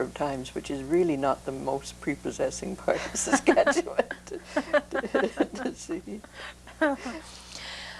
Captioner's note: laughter